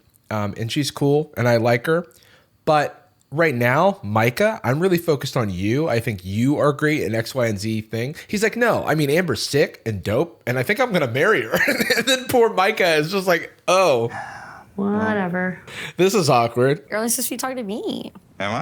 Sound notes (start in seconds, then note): 11.5 laughs; 13.8 sighs